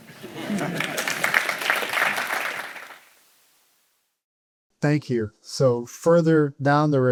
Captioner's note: applause